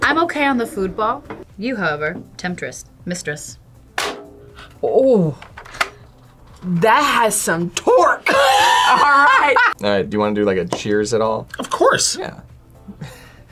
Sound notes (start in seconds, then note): 3.9 bazooka clicks; 8.9 laughs